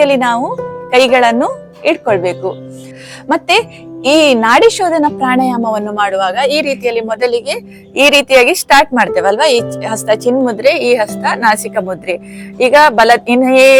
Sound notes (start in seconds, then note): 4.4 alternate nostril breathing